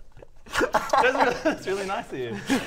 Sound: giggles; kiss

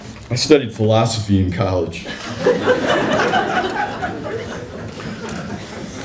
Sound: laughter

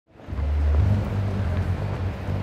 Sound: street sounds

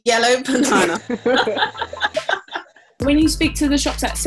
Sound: laughing

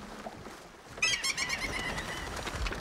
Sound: News Coo seagull squawking

